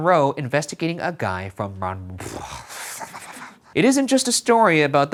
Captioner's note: sighs